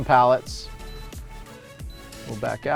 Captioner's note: touchscreen beeping